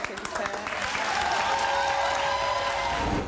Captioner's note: cheering